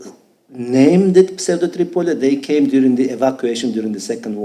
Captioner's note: speaking foreign language